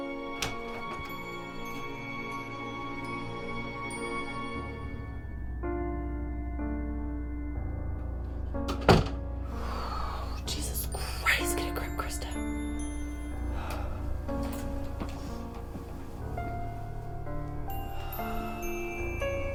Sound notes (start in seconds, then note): 5.8 tense music; 10.2 sighs